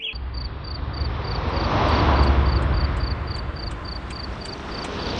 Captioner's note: night ambiance and cars